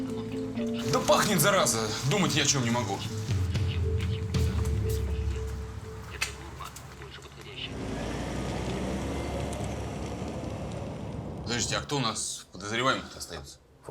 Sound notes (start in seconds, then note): 7.7 car sounds